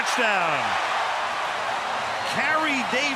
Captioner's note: cheering